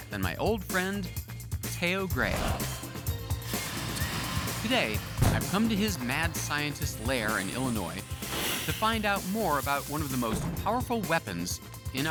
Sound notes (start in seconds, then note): 2.2 flames billowing